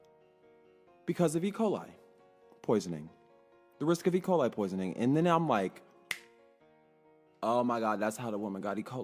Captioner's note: snaps fingers